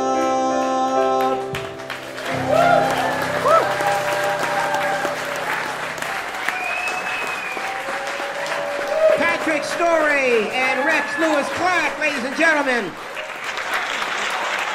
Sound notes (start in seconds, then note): 1.3 crowd clapping; 2.9 crowd cheering